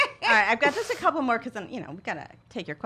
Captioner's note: laughs